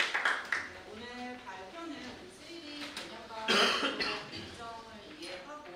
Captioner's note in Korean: 박수; 목을 가다듬음